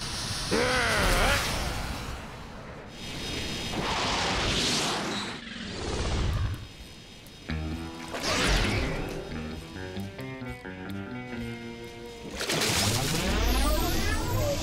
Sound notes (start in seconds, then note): 0.2 growls; 3.1 whirring